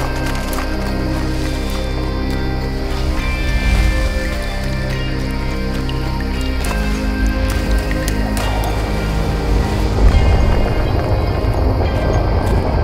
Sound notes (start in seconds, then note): 6.0 water trickling; 10.1 wind rushing